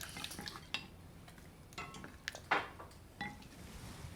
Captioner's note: dishes clank